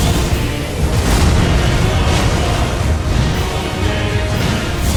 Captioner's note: earth crumbling